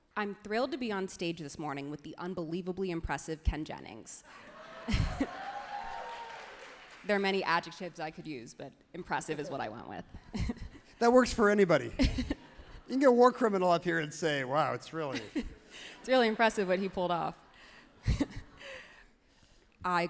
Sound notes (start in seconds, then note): 4.6 everyone laughs happily; 11.9 laughs happily; 15.1 laughs happily; 18.0 laughs genuinely